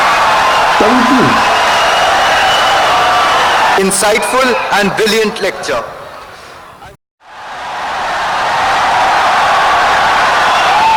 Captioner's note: wild applause and cheering for 17 seconds